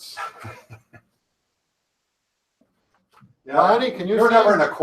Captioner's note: laughing